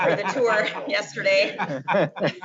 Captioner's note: laughing